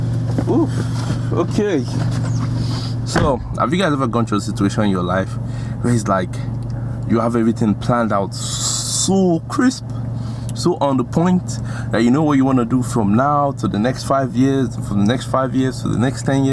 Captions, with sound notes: (footsteps) Ooh, okay. So, have you guys ever gone through a situation in your life where it's like, you have everything planned out so crisp, so on the point that you know what you wanna do